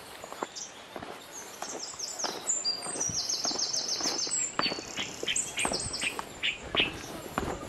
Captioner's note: birds singing